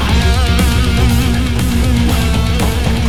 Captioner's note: evil snarl